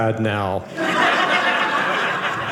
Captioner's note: audience laughing